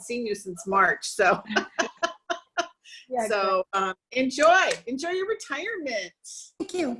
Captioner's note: laughs